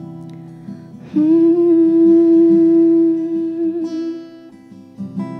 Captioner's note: humming